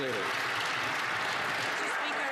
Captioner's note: some Applause